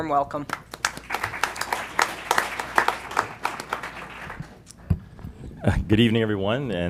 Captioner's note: applause